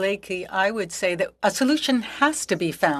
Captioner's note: speaking French